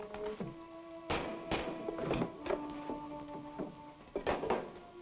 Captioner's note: boxes rattle